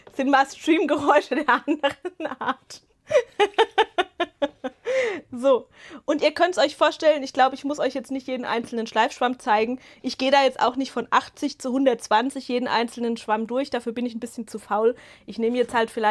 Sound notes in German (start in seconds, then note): 3.0 Gelächter; 4.8 japst